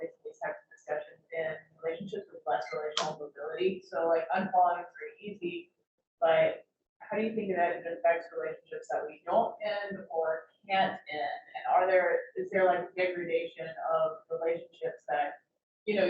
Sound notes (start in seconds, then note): 4.6 speaking faintly